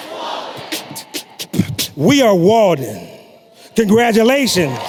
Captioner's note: beatboxing